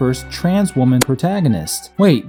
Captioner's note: tick